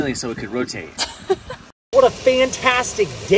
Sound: laughs

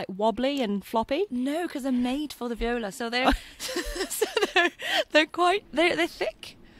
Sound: laughs

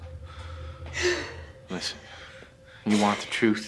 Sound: sobs

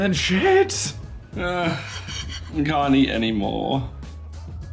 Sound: groans

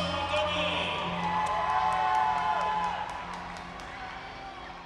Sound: cheers and applause

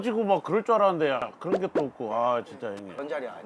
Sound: full of disappointment

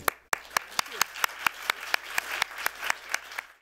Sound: applause

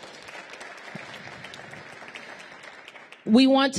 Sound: applause

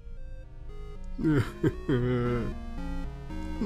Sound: sobbing

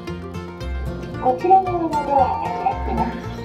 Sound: elevator annoucement

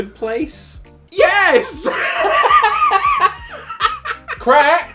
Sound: laughs

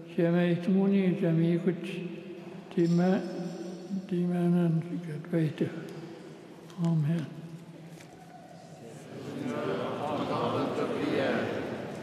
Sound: speaking Alternate Language

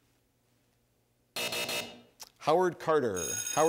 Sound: buzzing

